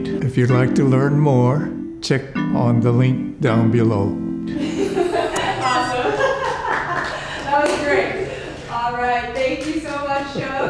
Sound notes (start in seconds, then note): 4.6 crew members laugh; 6.5 clapping